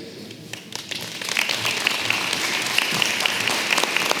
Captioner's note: applause